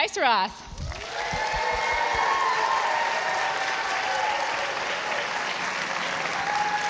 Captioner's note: audience applauding and cheering